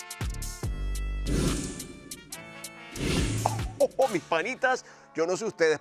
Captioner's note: laugh